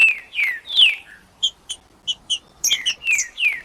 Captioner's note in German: trinca ferro cantando